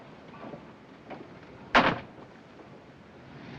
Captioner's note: door closes